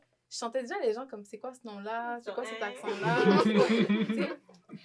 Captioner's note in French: rires